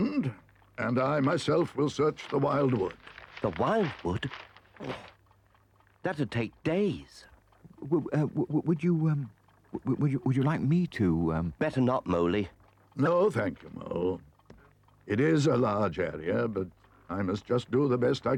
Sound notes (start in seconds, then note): 7.3 Mole stutters